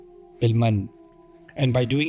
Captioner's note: Arabic